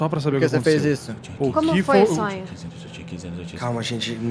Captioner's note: whispering